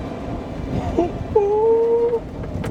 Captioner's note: chuckles